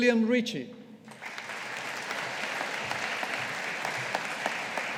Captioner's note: audience applauding